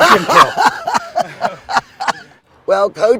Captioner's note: laughing